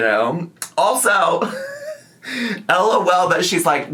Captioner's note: laughs